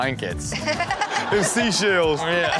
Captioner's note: audience laughing